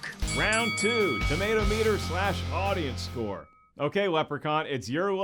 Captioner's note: bell rings